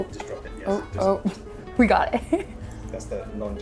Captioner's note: chuckling